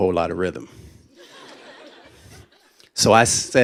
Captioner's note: laughter